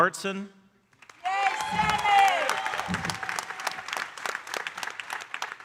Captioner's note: audience cheering and applauding